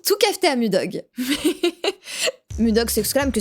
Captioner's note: nervous laughter